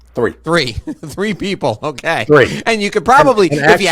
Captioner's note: chuckling